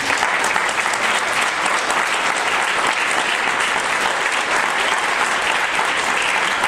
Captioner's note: audience applause